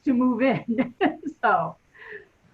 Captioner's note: chuckles